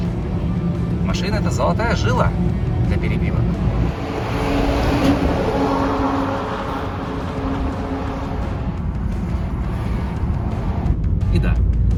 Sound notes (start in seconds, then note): 3.6 truck noise